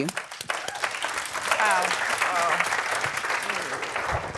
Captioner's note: applause